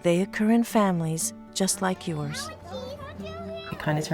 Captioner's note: children speaking excitedly